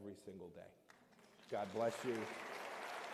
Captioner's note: applause